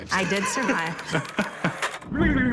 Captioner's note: laughter